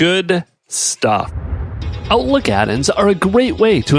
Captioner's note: air whooshing